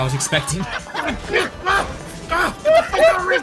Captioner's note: angry grunting, crew laughing